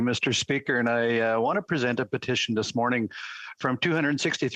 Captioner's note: speaking French